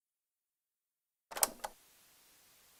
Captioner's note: cassette noise